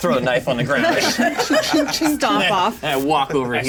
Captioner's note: laughter